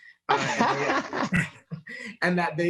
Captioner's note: laughs loudly